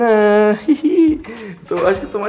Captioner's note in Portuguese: Risos